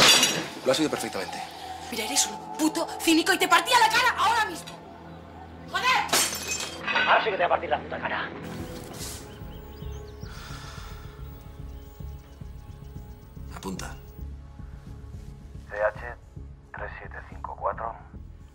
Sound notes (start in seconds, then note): 10.2 sighs